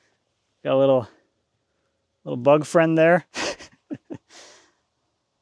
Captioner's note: laughs